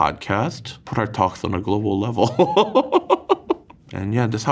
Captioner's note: laughs